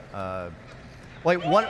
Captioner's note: cheering